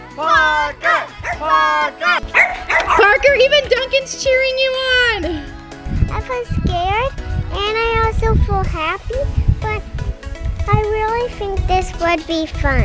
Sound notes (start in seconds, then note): 2.0 dog barking